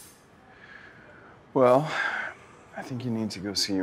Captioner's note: sighs